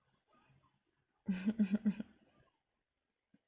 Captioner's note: chuckles